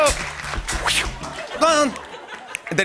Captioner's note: laughter